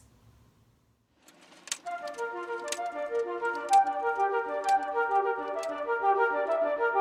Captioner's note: slides clicking; bright music